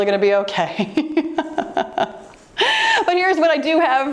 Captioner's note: laughing